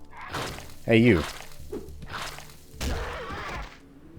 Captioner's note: thwack